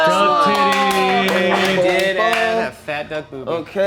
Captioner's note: movers cheering